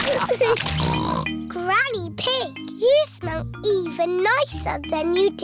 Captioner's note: snorts